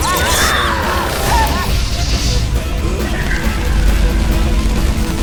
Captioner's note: screaming; electricity crackling